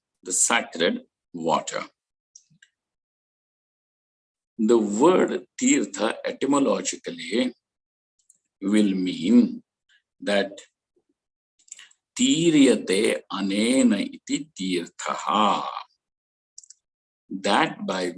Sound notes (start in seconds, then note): 16.5 sanskrit